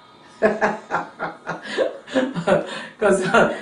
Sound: laughing

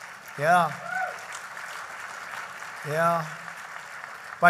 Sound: applause

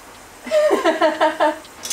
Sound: giggling

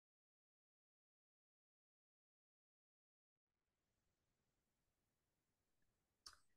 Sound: silence

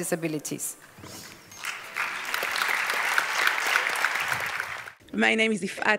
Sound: applause

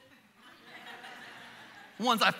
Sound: congregation laughing

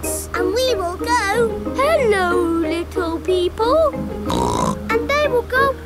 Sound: snorts

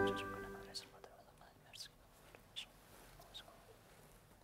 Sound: whispering

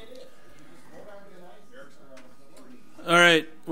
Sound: overlapping chattering

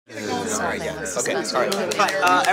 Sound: chatter

